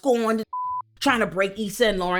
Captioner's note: beep